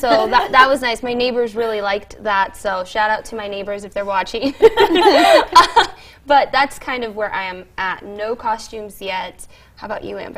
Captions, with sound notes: PROCRASTINATOR BUT I DO HAVE ONE LITTLE DECLARATION IN MY HALLWAY. I HAVE A PUMPKIN I NAMED WILSON.[LAUGHTER] I DECORATED HIM SO THAT WAS NICE AND MY NEIGHBORS REALLY LIKED